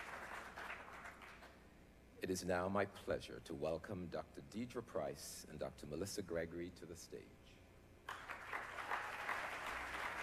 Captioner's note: applause